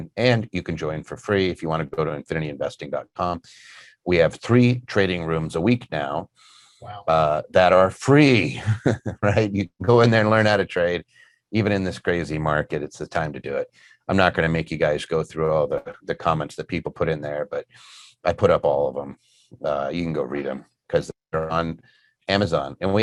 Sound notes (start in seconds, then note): 8.5 chuckling